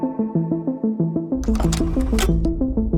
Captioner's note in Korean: 다이얼 소리